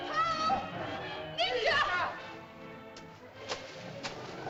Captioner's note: Loana shouts at Tumak; water splashes